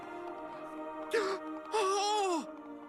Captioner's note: gasps